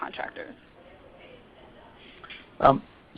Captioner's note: silence